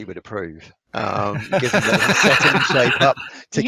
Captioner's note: laughs